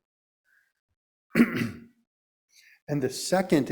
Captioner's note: clearing throat